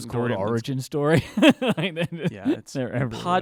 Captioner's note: laughing